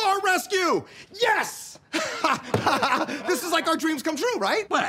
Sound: laughs

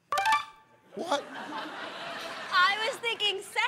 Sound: laughter

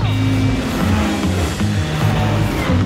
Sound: engines revs; upbeat music

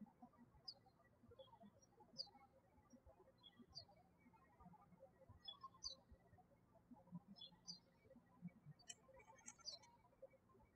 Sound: birds chirping

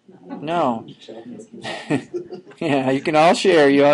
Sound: students chuckling

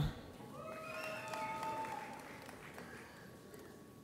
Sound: audience applauds

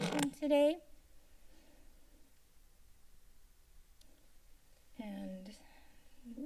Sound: silence

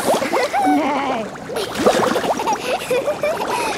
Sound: giggling, neighing; giggling

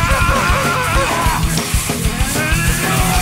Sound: heavy metal music; shouting

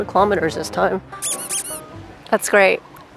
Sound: squeaks

